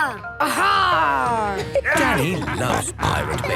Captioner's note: laughter